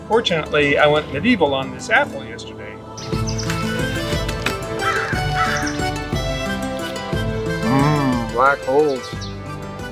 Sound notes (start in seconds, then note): 3.4 birds chirping; 3.4 bright music